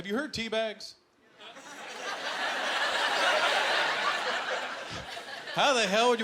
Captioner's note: laughter